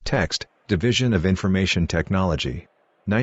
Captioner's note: background chatter